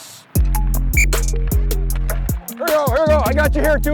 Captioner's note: whistle chirps